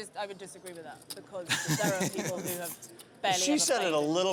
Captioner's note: laughs